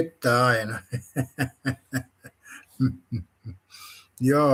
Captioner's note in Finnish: naurua